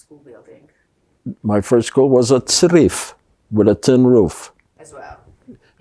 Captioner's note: hebrew